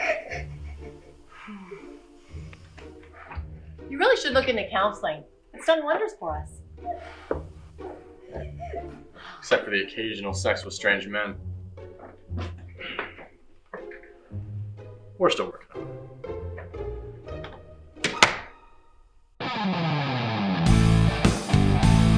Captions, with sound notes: (female captive crying) You really should look into counseling. It's done wonders for us. - Except for the occasional sex with strange men. We're still working on that. (door clicks closed) (rock music)